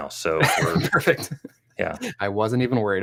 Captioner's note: chuckles